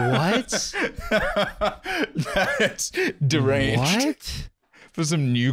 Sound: laughs

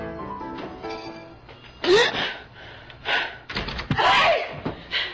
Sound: gasps

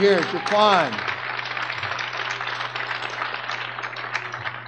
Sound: audience clapping

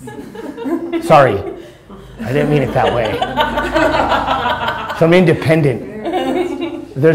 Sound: laughter; laughter

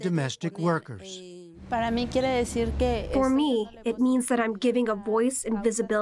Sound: through translator

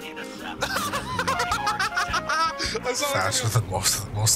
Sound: laughing histerically

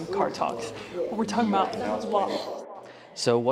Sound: echoes

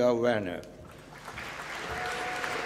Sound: applause

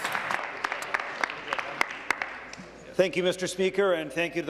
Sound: applause

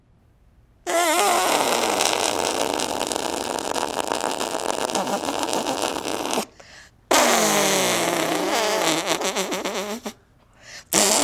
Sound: farting noises

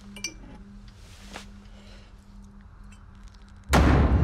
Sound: bottle clinks; ominous music

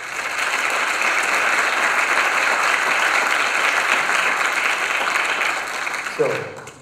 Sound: applause

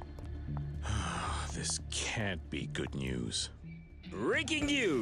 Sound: sighs

